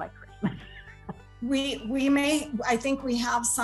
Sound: laughter

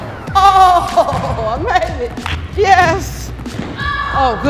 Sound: exclaims

